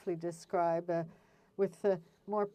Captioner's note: speaking French